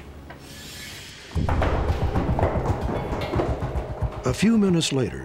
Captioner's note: footsteps on metal stairs